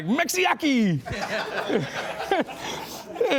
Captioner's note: laughing